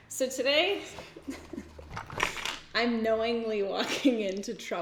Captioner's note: giggles